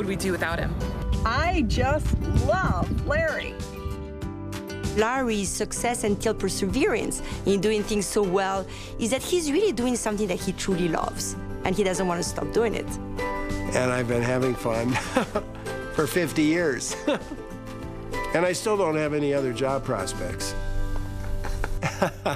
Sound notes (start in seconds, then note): 14.3 laughs; 21.2 laughs